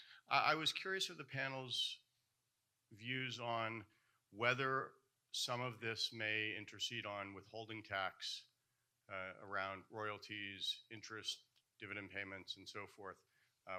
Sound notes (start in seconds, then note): none